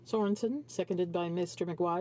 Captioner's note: speaking French